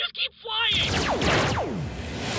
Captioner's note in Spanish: pew pew pew